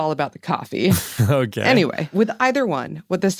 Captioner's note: laughs